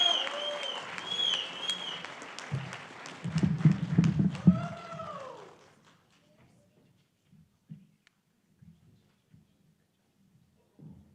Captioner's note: cheering and applause